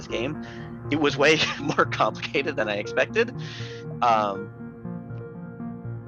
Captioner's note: laughing